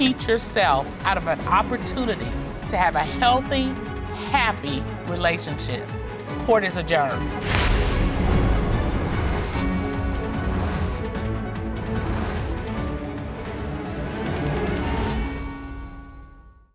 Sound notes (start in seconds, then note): none